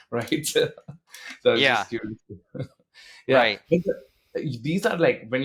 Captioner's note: laughing